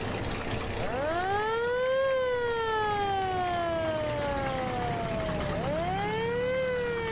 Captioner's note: fire truck siren